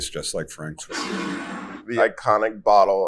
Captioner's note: bottle scrapes